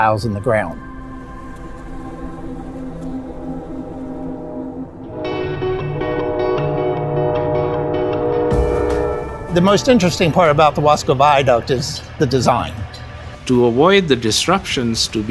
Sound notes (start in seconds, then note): 0.9 bees buzzing; 8.4 train horn